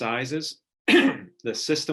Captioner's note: clearing throat